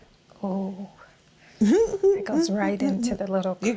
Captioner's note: laughs